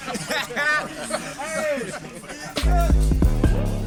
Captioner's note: laughing